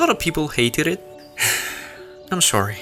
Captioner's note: sighs again